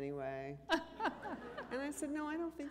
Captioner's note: laughter